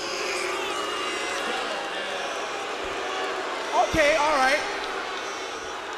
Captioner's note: crowd chatter